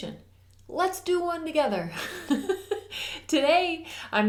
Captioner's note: giggles